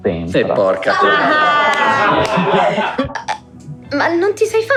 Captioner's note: laughing